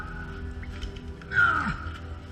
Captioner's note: archaeologist grunting